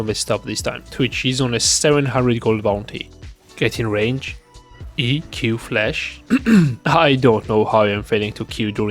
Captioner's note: ahem